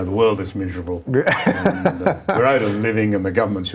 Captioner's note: laughing